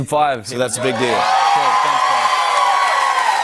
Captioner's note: cheers and applause